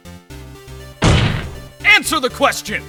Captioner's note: slam